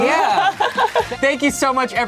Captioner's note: laughs